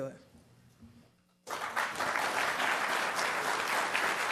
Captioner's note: applause